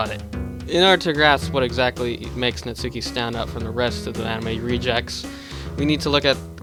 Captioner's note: breath